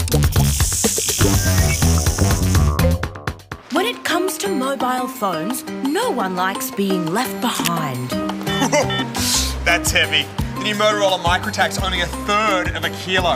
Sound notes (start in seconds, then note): 8.4 chuckles